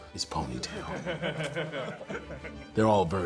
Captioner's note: laughing